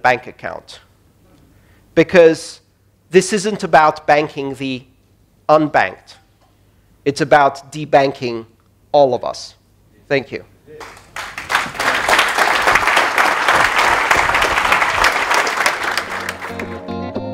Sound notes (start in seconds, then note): 10.8 applause